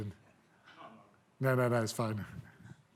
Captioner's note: speaking faintly